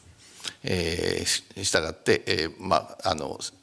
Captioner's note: speaking japanese